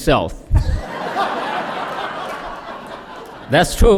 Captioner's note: laughter